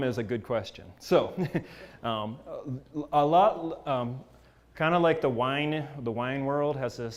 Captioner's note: laugh